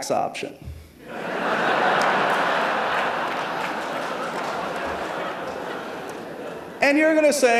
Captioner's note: laughter